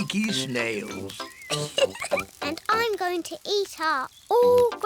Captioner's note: laughs